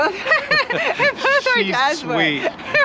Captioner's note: laughs